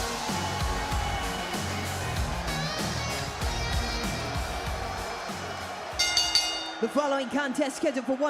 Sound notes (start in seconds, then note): 5.9 bell rings